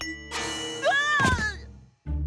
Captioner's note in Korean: 비명 소리